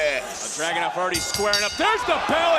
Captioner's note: bell dinging